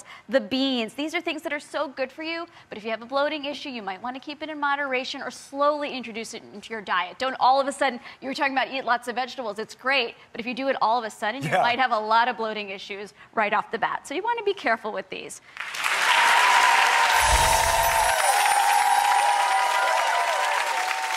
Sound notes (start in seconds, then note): 15.6 clapping